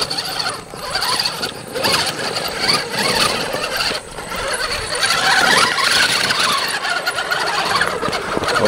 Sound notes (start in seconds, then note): 0.6 motor whining